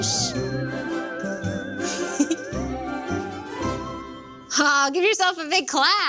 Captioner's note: playful music; giggles